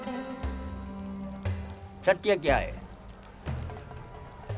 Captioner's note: speaking native language